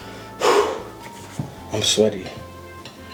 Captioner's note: exhales